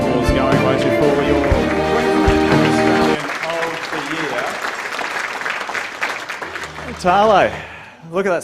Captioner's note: applause